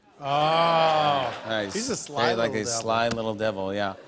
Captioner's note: light laughter